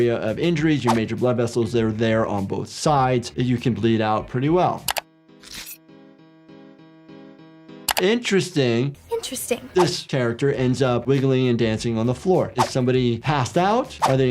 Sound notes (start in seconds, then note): 4.3 blade rasping; 4.3 mouse clicking